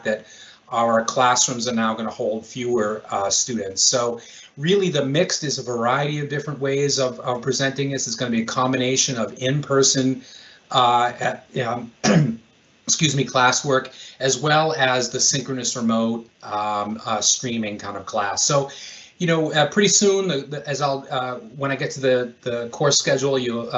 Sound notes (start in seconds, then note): 12.0 coughs